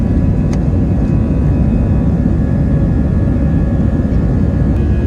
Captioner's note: plane engine rumbling